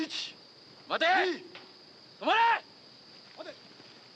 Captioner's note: shouts in Japanese